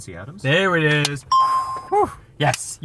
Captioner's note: bell rings